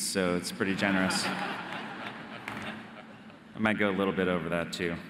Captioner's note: audience laughing